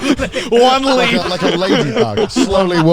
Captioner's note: chuckling; laughing